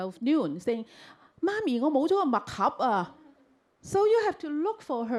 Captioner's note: Cantonese